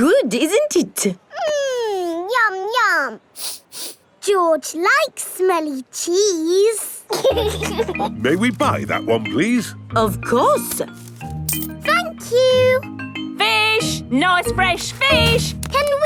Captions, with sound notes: Good, isn't it? Mmm! Yum, yum! -(SNIFFS) -George likes smelly cheese! (LAUGHING) May we buy that one please? Of course! Thank you! Fish! Nice fresh fish!